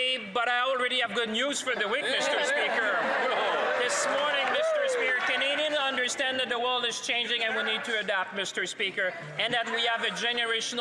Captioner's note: some Applause